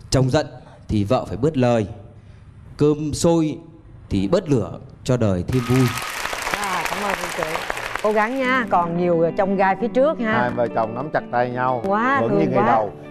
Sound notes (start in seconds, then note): 5.5 applause